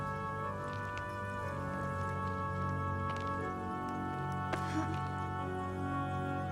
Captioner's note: Dalen grunting